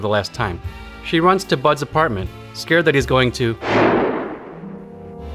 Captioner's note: bang